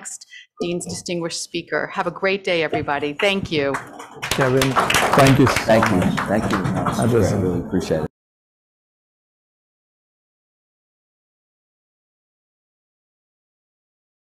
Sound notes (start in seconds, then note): 8.1 applause